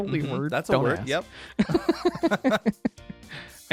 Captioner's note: laughs